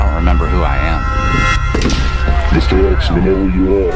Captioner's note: gunshot blasting; distorted Voice